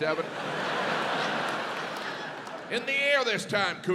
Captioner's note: audience laughs